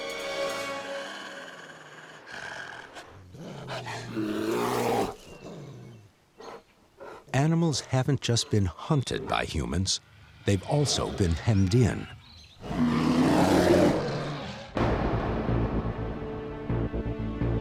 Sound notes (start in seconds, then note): 2.4 snarling; 5.4 growls; 14.4 growls